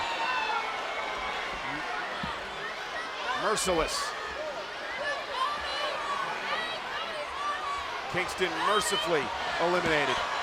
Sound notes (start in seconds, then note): 0.2 crowd yelling